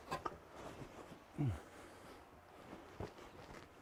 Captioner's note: Mercer grunts